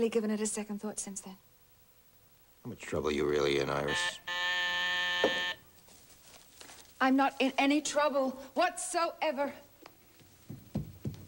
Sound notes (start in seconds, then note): 3.8 doorbell buzzes